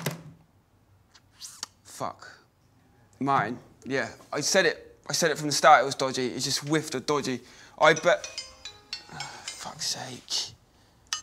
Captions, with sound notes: Fuck. Martin, yeah, I said it. I said it from the start it was dodgy. It just whiffed of dodgy. I bet... (Phone rings) Ah, fuck's sake.